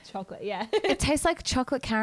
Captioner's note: laughs